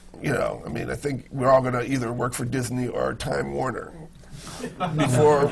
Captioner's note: laughter